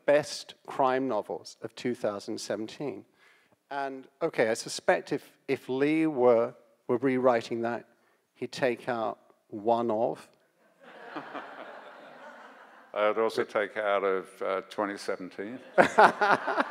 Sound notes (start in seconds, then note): 10.8 audience laughs; 15.6 audience laughs